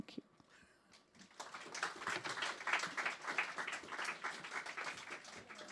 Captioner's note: audience clapping